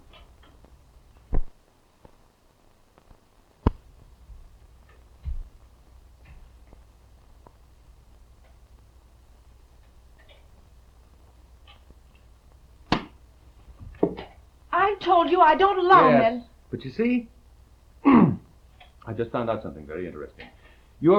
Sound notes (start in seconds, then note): 13.2 case thudding; 18.0 throat clearing